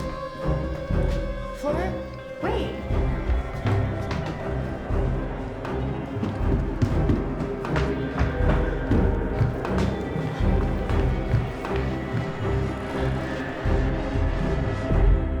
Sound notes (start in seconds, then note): 3.1 tense music; 6.5 footsteps thumping; 8.3 tense music